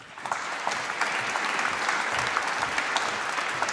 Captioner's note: applause